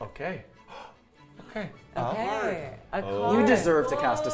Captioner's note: gasps